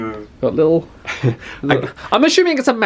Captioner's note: chuckles